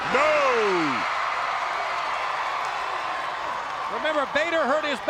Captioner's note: crowd cheering